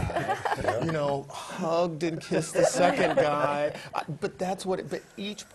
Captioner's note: laugh; laugh